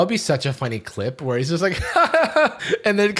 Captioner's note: awkward laugh